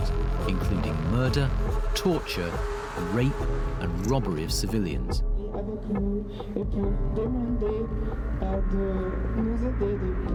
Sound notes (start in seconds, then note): 5.9 person speaks in Russian